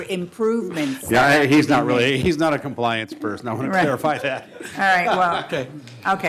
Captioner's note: laughter